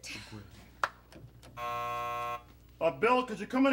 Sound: buzz

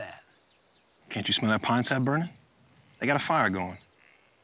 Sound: crow laugh

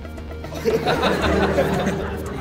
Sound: laughter

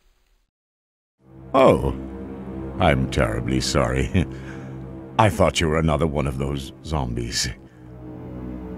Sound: chuckles

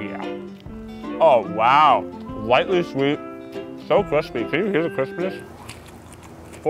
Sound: chewing noises

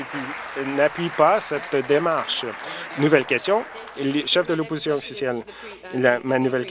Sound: applause

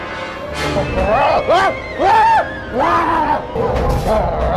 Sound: screaming

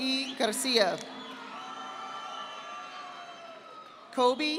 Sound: audience applauding

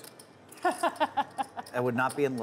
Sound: laughing

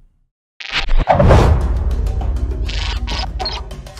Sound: metal creaking

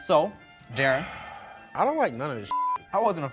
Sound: beep

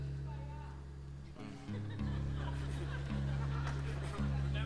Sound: audience laughing

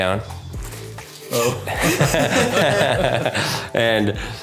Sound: all chuckling

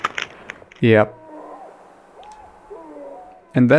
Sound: screams of excitement

